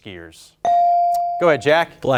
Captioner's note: bell ringing